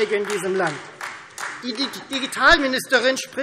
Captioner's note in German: Beifall Freie Demokraten